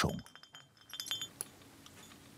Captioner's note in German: Klingeln